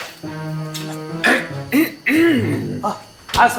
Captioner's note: clears throat